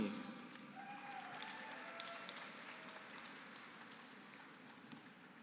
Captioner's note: applause